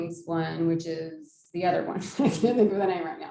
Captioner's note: laughs